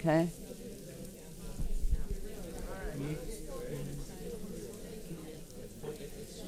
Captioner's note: paper crinkling and audience chattering